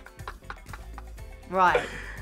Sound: laughs

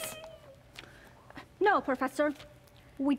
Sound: Sharik softly whimpers

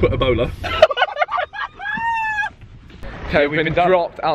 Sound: laughing

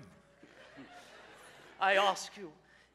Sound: audience laughs

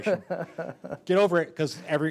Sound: laughing

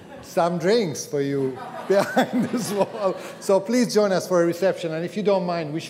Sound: audience laughter

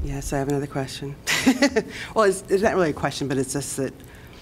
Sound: laughter

